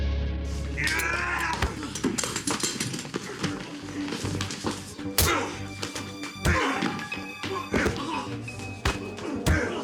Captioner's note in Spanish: Gritos y exclamaciones